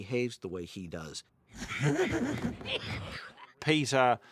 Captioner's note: chuckling